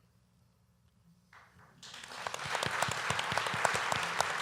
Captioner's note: applause